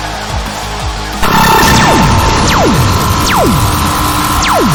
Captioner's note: lasers blasting